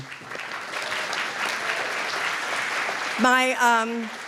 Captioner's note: applause